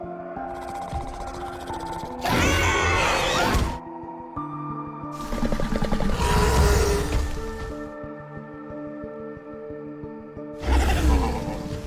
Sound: Scorpius Rex's vocalizing

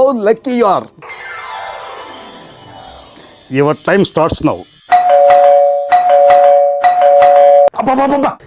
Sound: door bell rings

